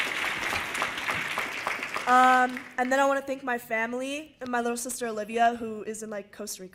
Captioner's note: cheers and applause